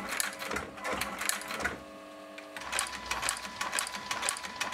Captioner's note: clacking of the sewing machine